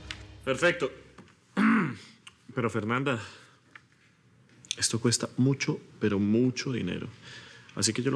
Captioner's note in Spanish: Carraspea